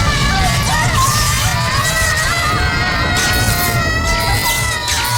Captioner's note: clap